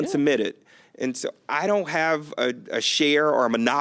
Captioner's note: laughs